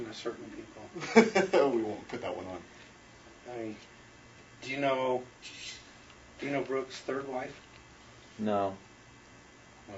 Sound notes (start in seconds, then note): 1.2 laughs